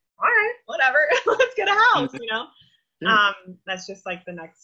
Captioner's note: laughs